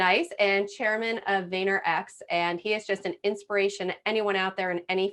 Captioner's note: none